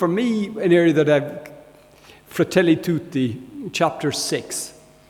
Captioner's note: speaking in foreign language